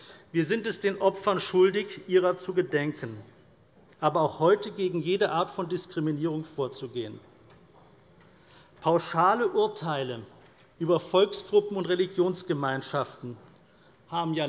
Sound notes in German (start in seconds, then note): none